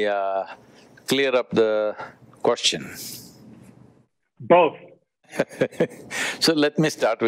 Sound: Sadhguru laughs

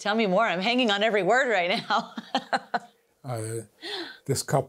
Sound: laughs

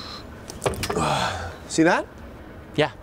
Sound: grunts

